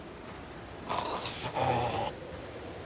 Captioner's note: zombie breathing